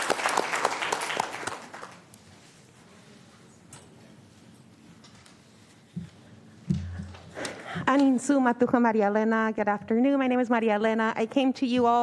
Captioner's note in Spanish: aplausos